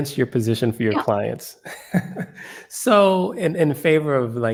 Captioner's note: laugh